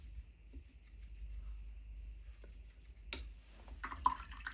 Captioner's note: pouring